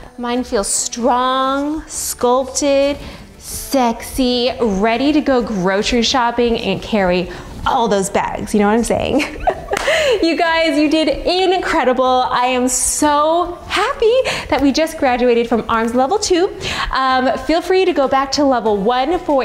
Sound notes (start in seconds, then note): 9.2 laughing